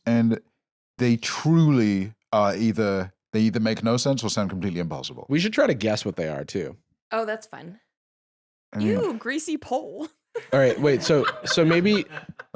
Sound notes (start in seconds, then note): 10.4 laughs